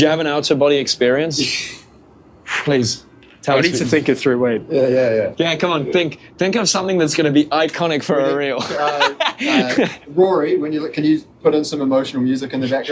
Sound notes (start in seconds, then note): 8.5 laughter